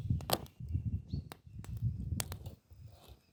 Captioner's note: crackling fire